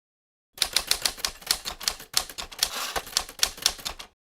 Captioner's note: typewriter clicking